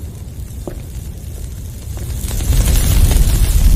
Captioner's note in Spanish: sonido de viento y fuego